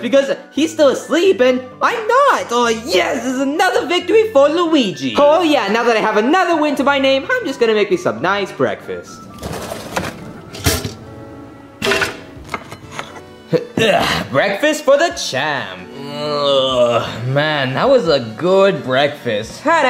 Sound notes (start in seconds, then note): 9.6 package rustling and toaster clicking; 13.8 Luigi grunting; 16.0 Luigi groaning